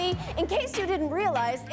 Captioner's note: laughter